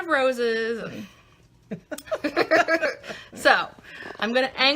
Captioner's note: laughing